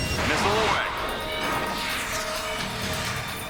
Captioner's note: bell